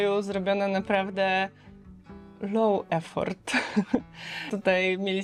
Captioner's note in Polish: śmiech